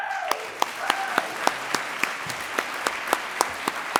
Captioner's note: audience applauds